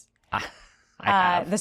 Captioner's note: Ross chuckles